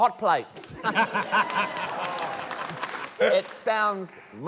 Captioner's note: laughter, cheering, applause